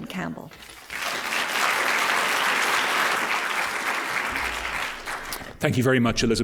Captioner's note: applause